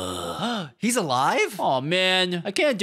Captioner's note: gasp